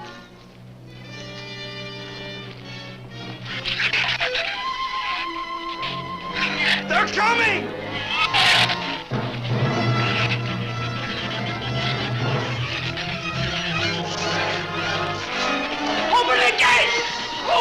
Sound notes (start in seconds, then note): 3.4 shrew chatter; 9.6 dramatic orchestral music; 9.6 shrews chatter